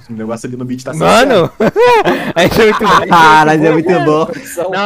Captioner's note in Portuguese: risos